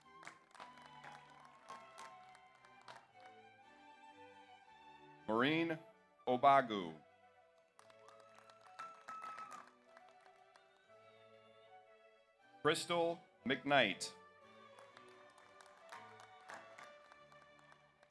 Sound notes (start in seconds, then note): 0.0 audience applauds; 7.6 audience applauds; 8.6 audience cheers; 14.6 audience applauds